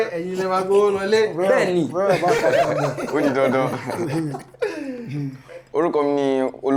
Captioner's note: laughs